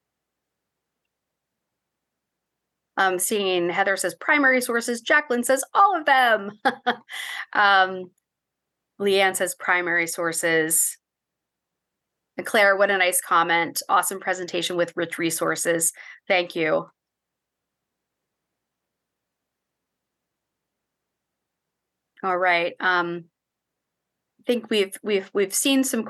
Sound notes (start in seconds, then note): 6.6 laugh